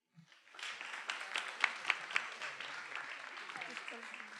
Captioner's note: attendees applauding